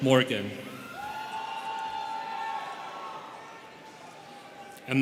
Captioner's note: students cheering